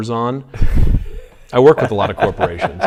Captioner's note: laughs